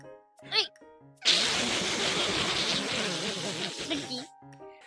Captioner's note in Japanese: 笑いをこらえる